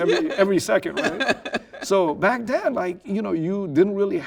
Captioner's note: laughing